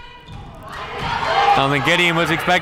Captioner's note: crowd cheering